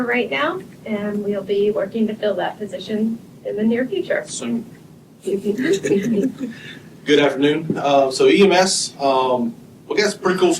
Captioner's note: laughter